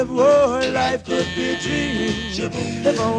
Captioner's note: doorbell buzzing